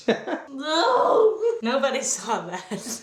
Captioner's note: groans